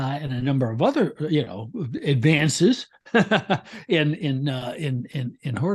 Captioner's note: laughs